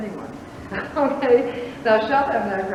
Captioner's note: laughs